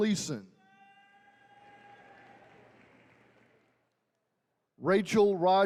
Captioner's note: attendees cheering